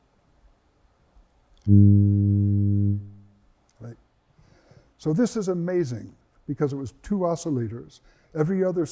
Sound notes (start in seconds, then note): 1.6 tone